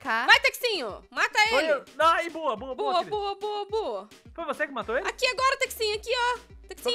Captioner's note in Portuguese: none